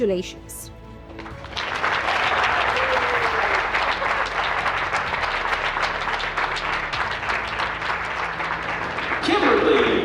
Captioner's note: music and applause